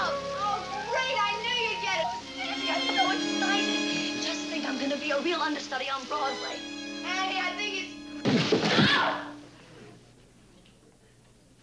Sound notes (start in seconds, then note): 8.2 thud